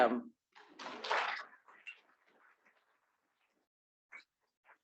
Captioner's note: students clapping